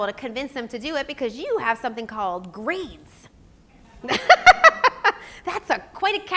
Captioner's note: laughs